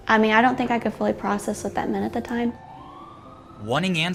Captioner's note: sirens whaling